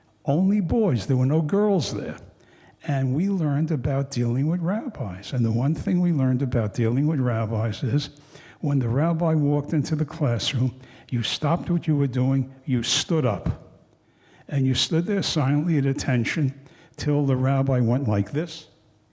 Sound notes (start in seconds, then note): none